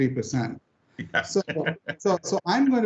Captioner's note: laughing